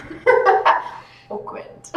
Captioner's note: laughs